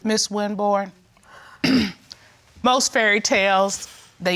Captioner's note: clears throat